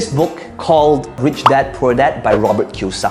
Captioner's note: bubble popping